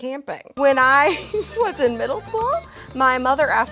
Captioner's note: laughs